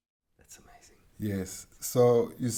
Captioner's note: whispering